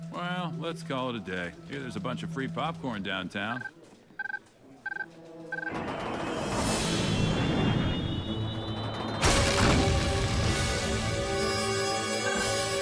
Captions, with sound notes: Eh, well. Let's call it a day. Here there's a bunch of free popcorn downtown. (BEEPING) (DRAMATIC MUSIC PLAYING)